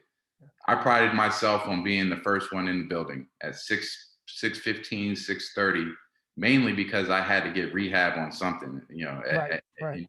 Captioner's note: voice Low